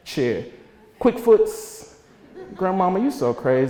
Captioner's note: audience laughter